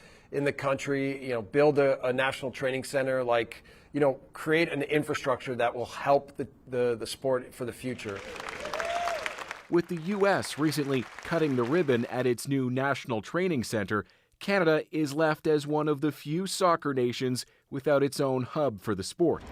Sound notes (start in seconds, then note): 10.0 applause